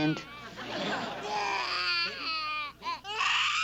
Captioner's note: cries